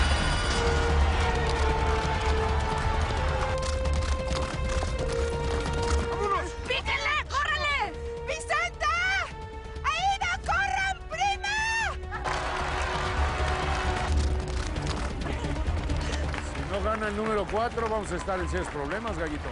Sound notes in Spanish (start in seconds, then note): 12.2 Aplausos